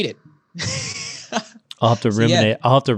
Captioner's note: laughing